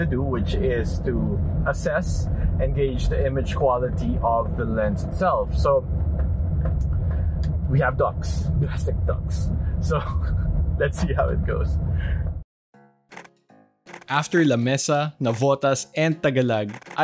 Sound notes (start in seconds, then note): 12.6 camera shutters; 13.2 soft music